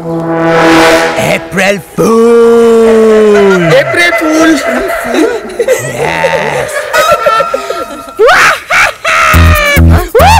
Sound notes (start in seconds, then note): 7.1 Laughs; 8.3 Manav laughing and whooping